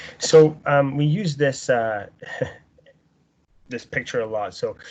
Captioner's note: laughing